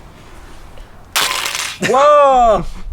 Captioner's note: wind; crunch